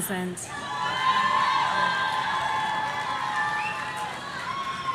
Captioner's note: audience cheering